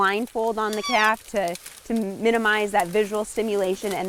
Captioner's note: elk calf cries out